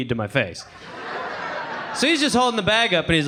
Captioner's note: audience laughing